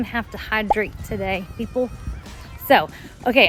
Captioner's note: bottle pops